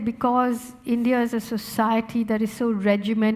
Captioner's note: none